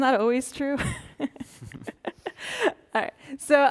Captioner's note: chuckling